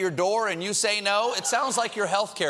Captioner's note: laughter